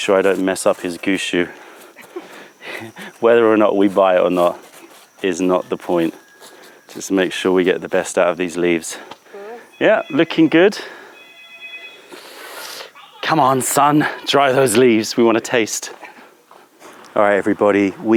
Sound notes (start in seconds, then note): 2.0 laughter